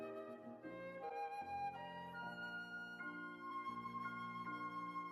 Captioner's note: none